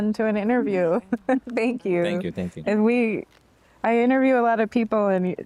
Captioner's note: laughter